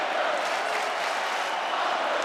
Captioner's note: audience clapping